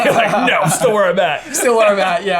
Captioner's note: laughing